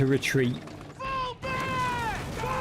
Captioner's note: explosion